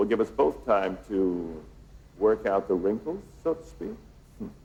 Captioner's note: chuckles